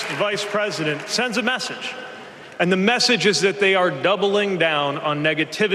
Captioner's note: cheers and applause